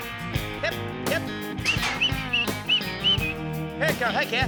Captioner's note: whistling